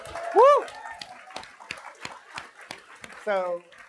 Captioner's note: applause